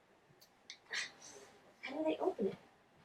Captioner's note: grunting